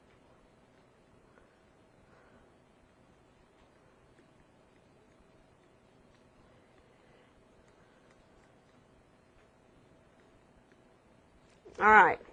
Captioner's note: silence